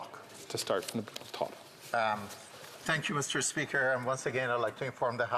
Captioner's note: none